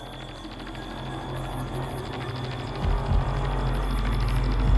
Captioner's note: ominous music; heartbeat thumps